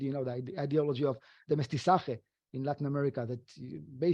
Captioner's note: speaking foreign language